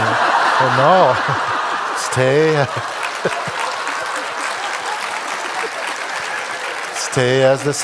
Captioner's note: Lachen und Applaus